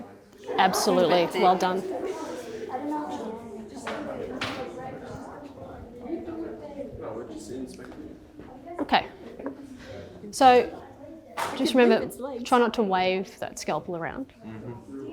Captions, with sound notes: Absolutely. Well done. (students chattering) Okay. So, just remember, try not to wave that scalpel around.